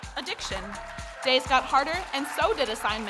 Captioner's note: audience cheering